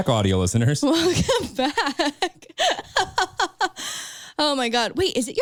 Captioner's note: laughs